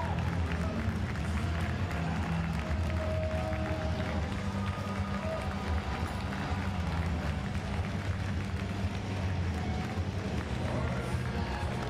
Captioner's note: applause